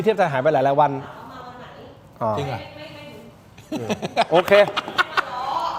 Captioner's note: laughter